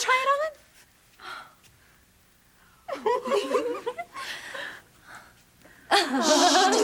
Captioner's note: laughter